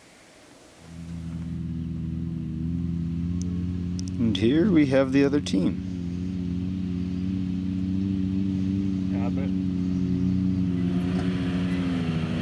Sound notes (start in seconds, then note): none